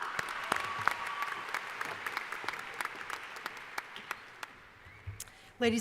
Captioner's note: applause